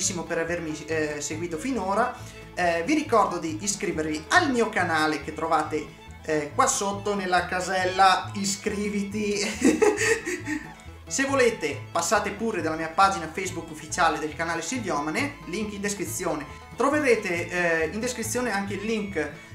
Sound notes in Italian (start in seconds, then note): 9.4 risata malefica